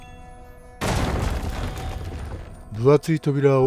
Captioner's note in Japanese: 扉が壊れる音